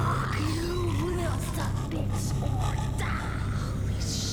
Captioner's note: snarling